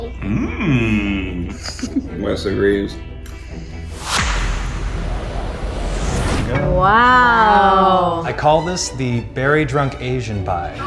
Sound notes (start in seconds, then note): 2.2 laughing; 3.8 whoosh